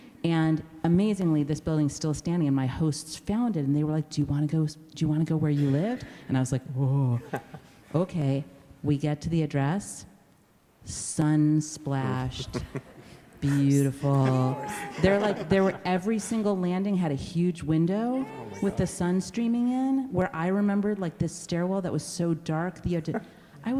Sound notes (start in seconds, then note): 13.4 laughs; 13.5 exclaims